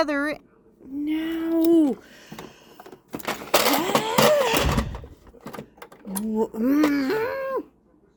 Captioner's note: annoyed groan